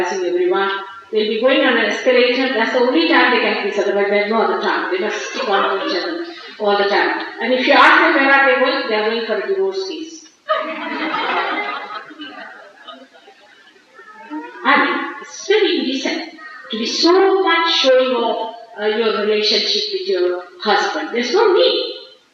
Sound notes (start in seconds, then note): 10.4 laughter